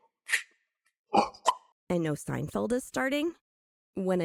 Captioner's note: Seinfeld mouth pops